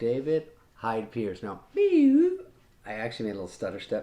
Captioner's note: makes wilting noise